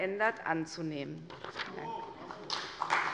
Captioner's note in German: Beifall bei der CDU